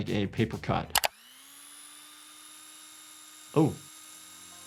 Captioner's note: machine whirs